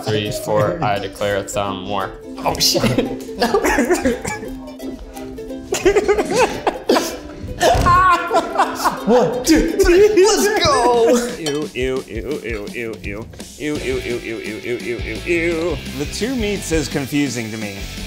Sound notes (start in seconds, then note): 2.6 both chuckling; 5.7 both chuckling